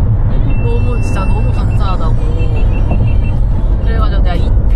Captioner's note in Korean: 고프로 배터리 다 된 소리